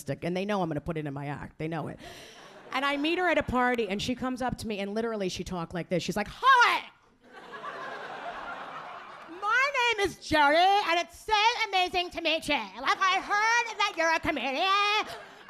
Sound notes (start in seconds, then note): 7.2 audience laughing